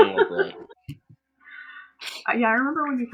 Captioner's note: laughter